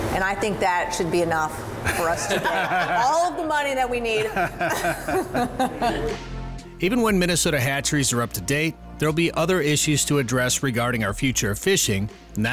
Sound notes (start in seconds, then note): 4.1 both laughing